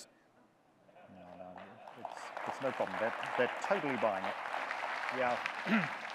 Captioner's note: audience clapping